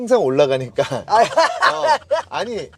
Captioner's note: hahahaha